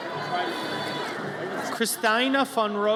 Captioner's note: audience cheers